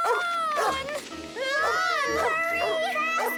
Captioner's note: barking